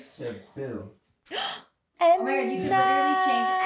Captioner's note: gasping